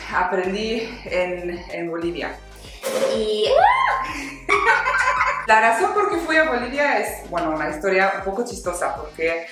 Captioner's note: uuuuhhh